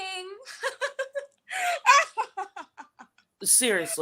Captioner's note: Florence laughs